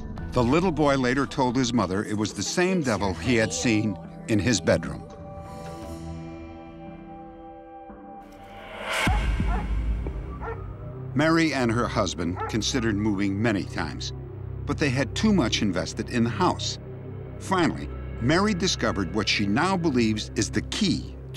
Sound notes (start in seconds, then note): 9.4 dog barking